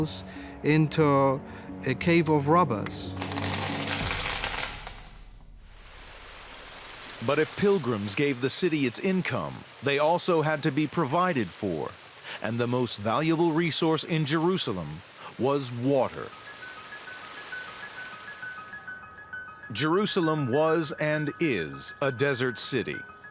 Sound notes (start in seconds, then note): 3.2 coins falling, clinking; 5.2 water whooshing